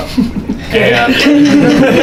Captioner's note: Gary laughs; laughter